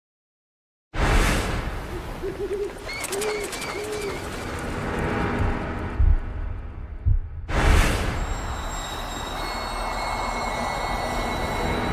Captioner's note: menacing noises, forest ambiance, wind chimes, wolves